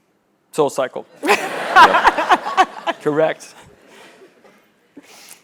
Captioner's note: laugh